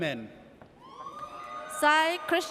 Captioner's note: audience cheers